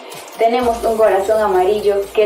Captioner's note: foreign language 00:39:44